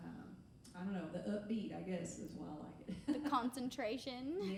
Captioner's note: laughing